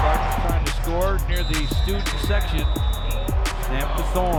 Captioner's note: whistle blows